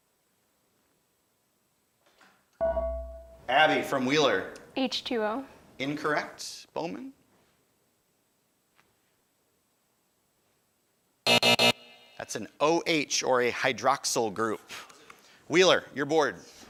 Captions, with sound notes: (ding) Abby from Wheeler. >> H two O? >> Incorrect. Bowman? (buzzer) That's an O H, or a hydroxile group. Wheeler, your board.